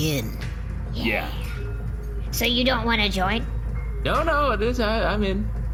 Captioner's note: noncommittally